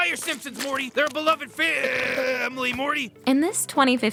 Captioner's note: belches